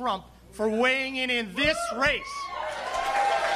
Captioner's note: cheering and applause